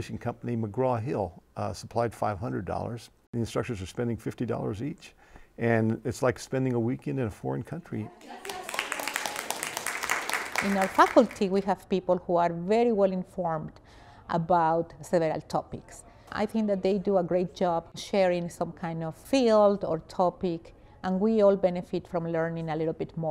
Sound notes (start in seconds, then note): 8.2 class applauds